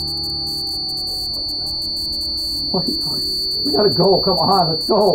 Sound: buzzing

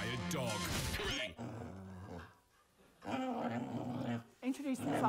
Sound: dog whining

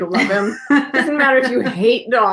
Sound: laughing

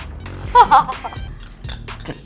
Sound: laughing

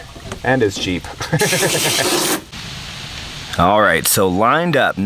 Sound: narrator laughing

